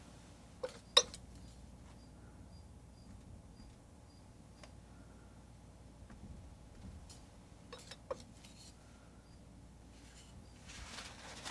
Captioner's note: scratching sounds